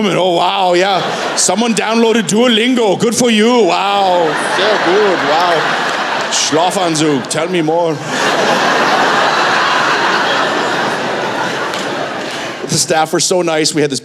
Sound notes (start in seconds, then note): 8.6 laughter